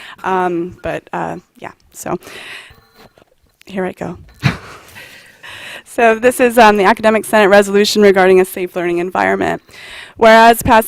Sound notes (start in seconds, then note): 4.4 laughter